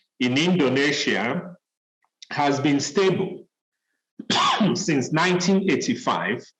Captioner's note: cough